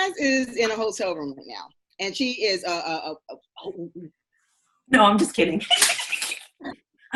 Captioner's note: shushes